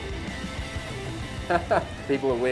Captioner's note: laughs